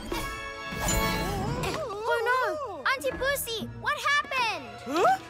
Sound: cries of distress

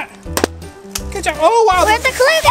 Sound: balloon pops

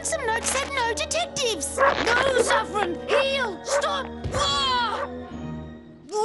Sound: dog barking

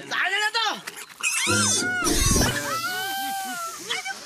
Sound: pig squealing

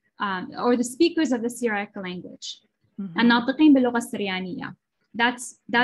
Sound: non-english speech

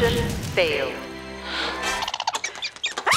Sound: gasping; screaming

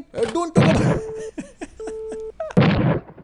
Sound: laughing; phone ringing

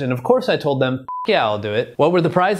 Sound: beep

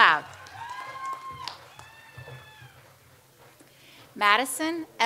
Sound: audience applauds

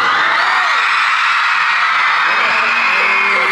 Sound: loud cheering

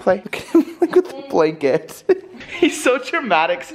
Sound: laughing

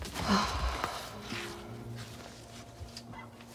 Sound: Sam sighs

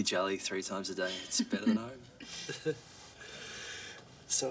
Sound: both laugh

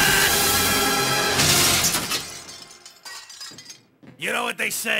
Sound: Procter Yelling; crash

